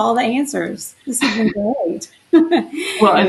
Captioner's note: laughs